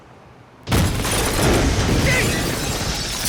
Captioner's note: explosion booming